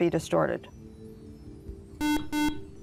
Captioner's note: buzzer